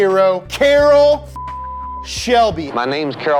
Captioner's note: beep